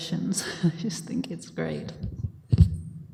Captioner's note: chuckling